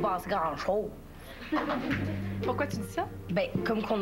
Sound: Rires

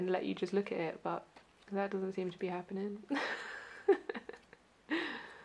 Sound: laughs

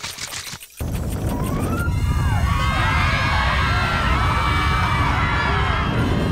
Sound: screaming

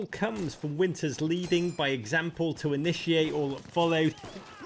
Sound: gun clangs

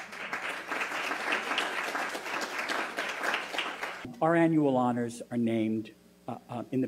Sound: applause

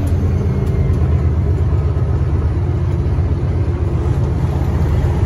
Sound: truck engine rumbles

